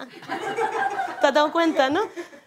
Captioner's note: laughter